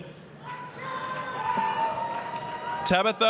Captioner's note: applause, cheering